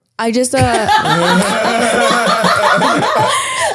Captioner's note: laughing